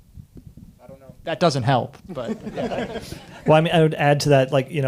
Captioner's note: audience laughing